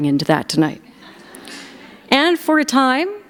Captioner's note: laughter